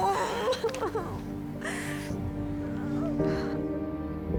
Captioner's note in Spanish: Sollozos